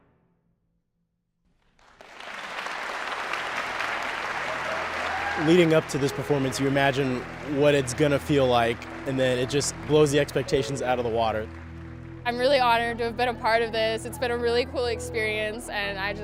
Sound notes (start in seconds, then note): 2.4 loud applause